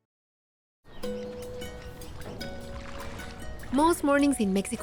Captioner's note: birds chirping; water splashing